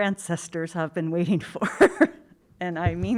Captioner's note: laughs